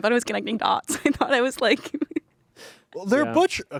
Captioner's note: laughs